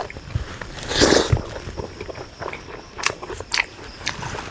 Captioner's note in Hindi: नाक से की जाने वाली आवाज़